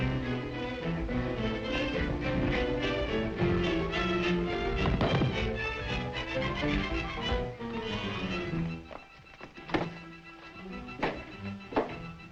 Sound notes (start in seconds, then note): 4.7 guards clatter; 9.7 tense music